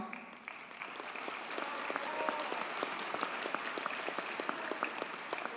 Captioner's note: audience cheers and applauds